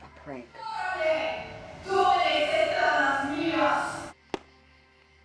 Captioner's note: chants in foreign language